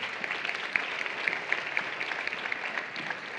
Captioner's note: applause